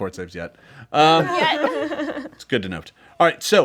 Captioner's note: group laughs